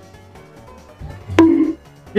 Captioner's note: bonk